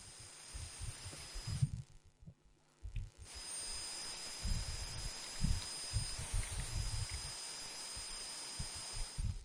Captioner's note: electronic interference intensifies